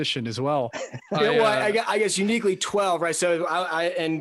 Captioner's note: laughs